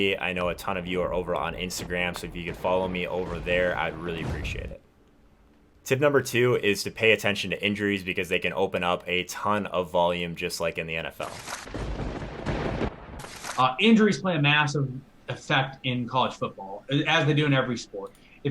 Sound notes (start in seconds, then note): 11.7 thunder bangs